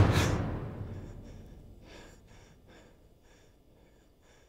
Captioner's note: Mark breathes heavily